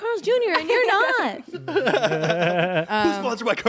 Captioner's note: everyone laughs